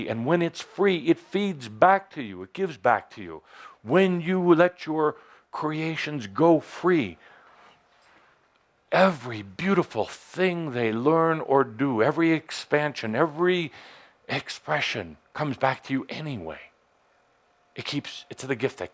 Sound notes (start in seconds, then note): none